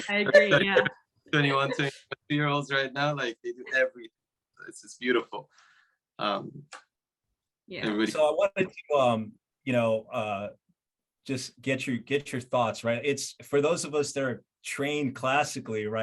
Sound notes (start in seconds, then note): 0.0 laughing; 2.1 voice muffling